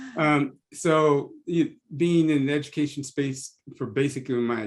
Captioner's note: laugh